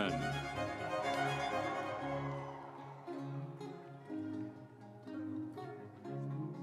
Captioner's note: instrumental music; audience cheering